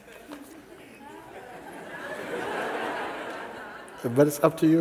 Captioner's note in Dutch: gelach